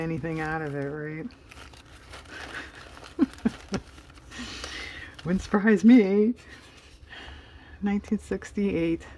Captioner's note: laughs